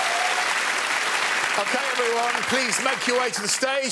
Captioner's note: cheers and applause